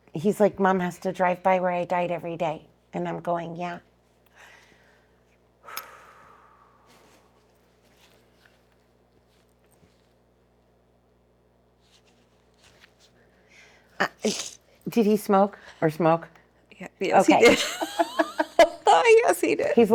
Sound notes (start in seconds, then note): 5.6 breathing